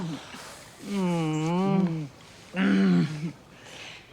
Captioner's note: Tom groans